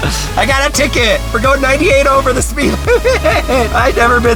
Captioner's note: laughs